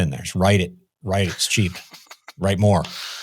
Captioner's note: laughs